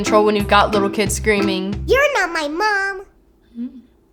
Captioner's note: child's voice